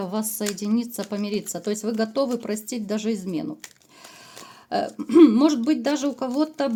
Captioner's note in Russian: откашливается